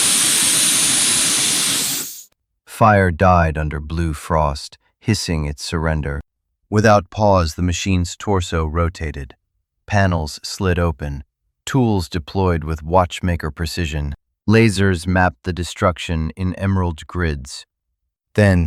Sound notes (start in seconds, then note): 2.7 SFX: Cannon moving; 2.7 SFX: fire-hose burst